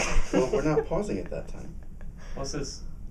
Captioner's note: laughing